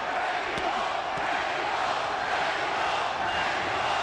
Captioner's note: audience chanting "mexico!"